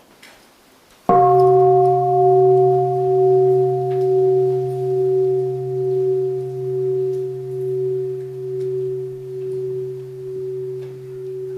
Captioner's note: three sounds of the bell